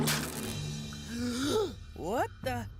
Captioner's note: Mike Inhaling